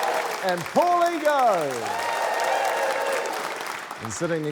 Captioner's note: cheering, applause